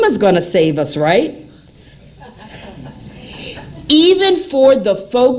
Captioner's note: laughter